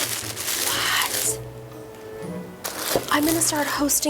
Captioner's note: plastic rustles; whispers